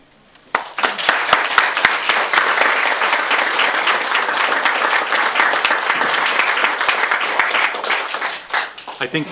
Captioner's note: applause